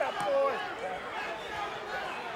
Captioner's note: crowd chatter